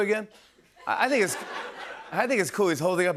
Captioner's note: laughter